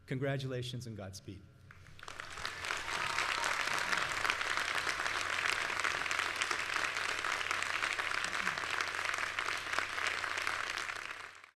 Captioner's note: applause, cheers